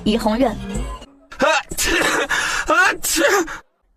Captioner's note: cough